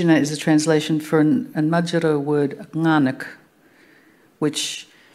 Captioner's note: speaking Anmatyerr